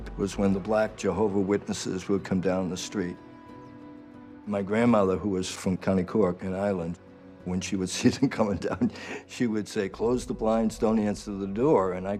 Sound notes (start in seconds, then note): 8.0 laughs